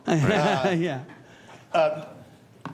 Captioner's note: laughter